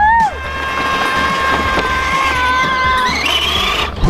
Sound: child screams

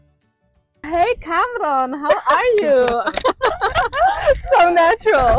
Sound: laughter

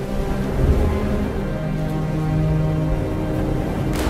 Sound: waves sound

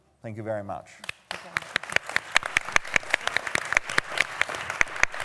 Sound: applause

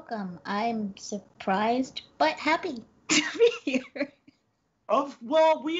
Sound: laughs

